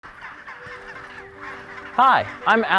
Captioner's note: penguins squawking in the background